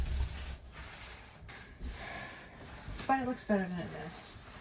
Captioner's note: scrubbing